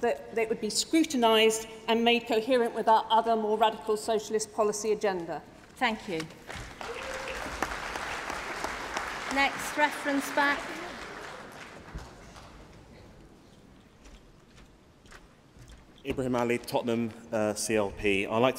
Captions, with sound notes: would be the only ministry or office taking or allocated aid or whether it would still go through other departments, as what means it would be scrutinised and made coherent with the other more radical socialist policy agenda. Thank you. (Applause) >> Next reference back.